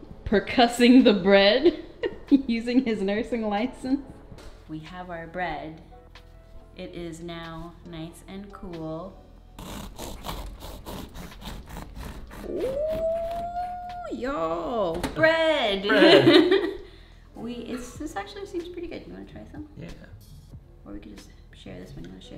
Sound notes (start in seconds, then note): 1.9 laughs; 9.6 knife scrapes bread